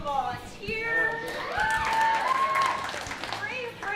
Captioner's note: cheering